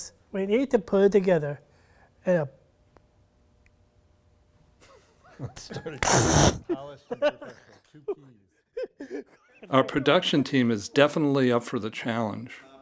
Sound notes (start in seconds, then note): 6.0 laughing together